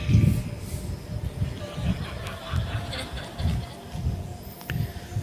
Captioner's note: participants Laugh